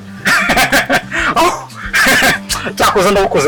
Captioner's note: Kamali laughing